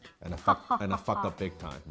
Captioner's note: laughs sarcastically